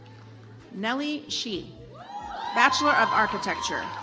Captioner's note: audience applauds